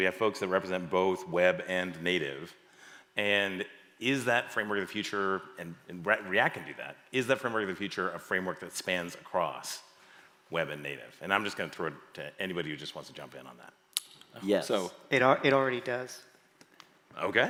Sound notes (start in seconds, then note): none